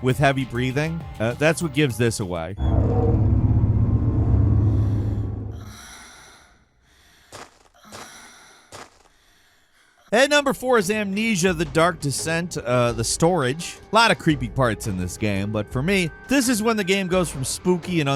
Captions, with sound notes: with heavy breathing. That's what gives this away. (tense music) (heavy breathing) And number four is "Amnesia: The Dark Descent," the storage. Lot of creepy parts in this game, but for me, this is when the game goes from spooky